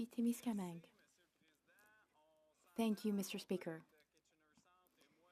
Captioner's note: speaking French